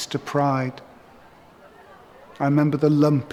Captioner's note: cheering